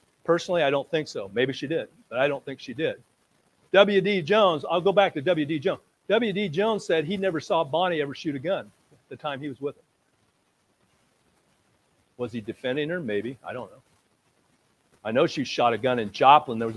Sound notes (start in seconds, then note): none